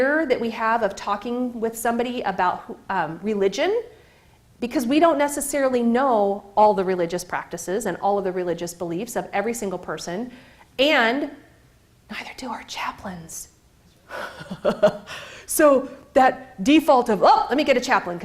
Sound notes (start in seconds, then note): 11.0 whispering; 14.1 chuckles